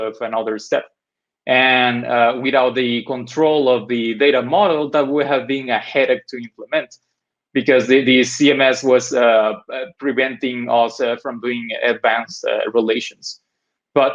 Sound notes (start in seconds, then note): none